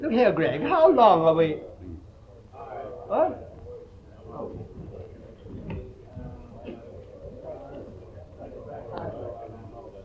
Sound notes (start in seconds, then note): 5.3 people chattering